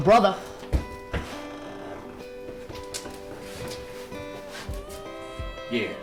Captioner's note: footsteps